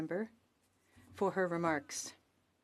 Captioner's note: speaking french